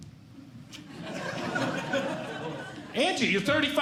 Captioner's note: audience Laughing